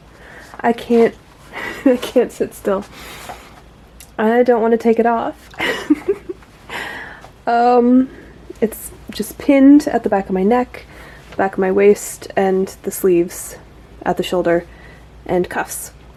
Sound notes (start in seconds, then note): 5.5 giggles